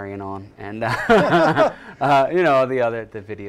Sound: laughter

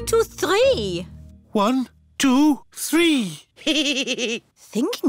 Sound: giggles

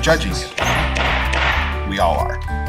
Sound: sound of gavel striking

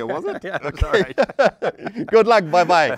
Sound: laughing

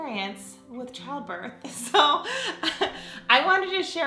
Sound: laughs

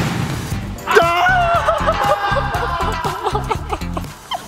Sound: cry

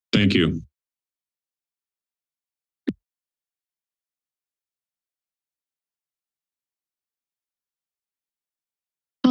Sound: silence

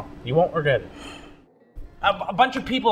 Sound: Ed sighs

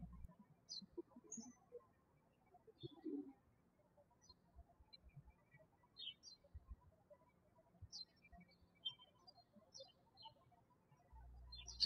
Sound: birds chirping

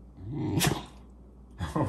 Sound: Oliver whines and sneezes at the same time

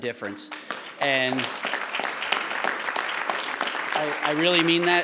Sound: audience clapping

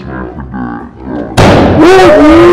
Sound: lower pitch

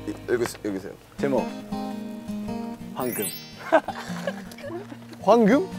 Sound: giggle

